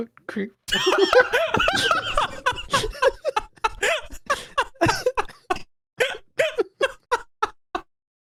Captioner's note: laughing